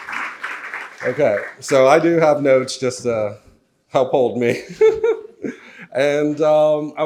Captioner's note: audience applauds; laughs